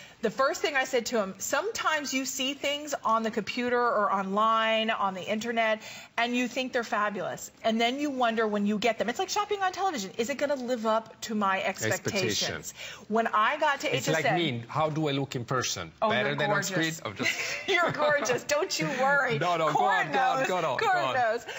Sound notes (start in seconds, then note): 17.2 laughter